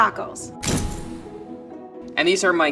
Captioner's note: camera snaps